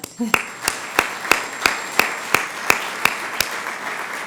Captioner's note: crowd applauds